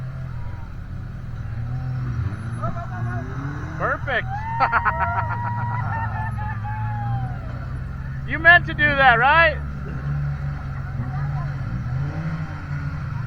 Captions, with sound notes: Perfect. [LAUGHTER] You meant to do that, right?